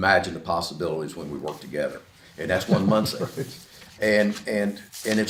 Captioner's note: laughs to self